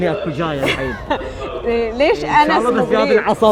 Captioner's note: laughing